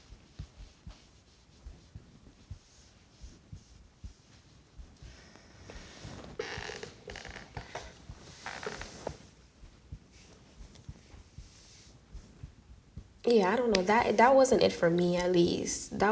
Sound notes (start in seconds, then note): none